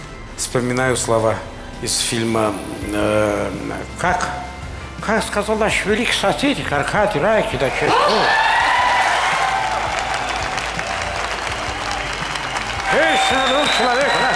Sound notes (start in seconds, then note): 7.6 cheering